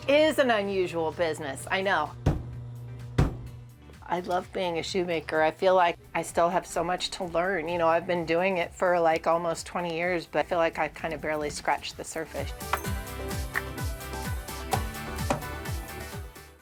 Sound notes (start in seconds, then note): 3.1 metal thuds; 13.2 upbeat music